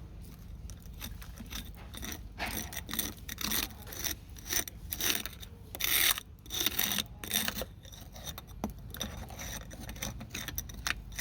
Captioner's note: scraping